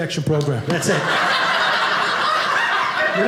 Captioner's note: audience laughing